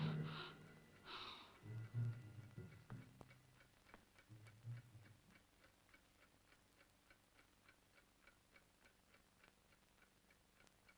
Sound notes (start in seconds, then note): 0.1 Lottie panting; 4.9 clock ticking